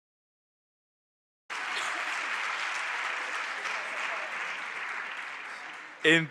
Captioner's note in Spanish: Aplausos